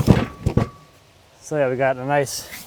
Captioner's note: wood turning over onto metal